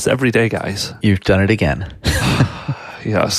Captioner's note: laughs